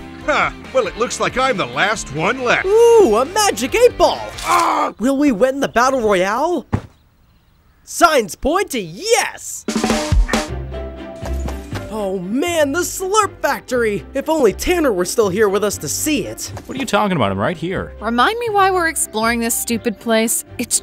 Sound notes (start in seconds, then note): 4.1 groans; 6.6 body thuds; 9.6 upbeat drum music; 11.1 footsteps tapping